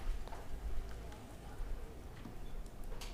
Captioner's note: none